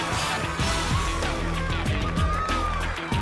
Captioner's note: crowd cheering